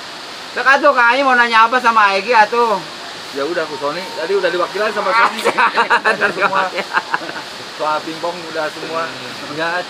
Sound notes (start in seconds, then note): 5.2 laughter